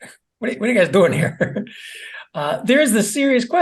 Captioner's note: laugh